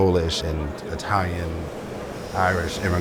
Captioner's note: heavy machinery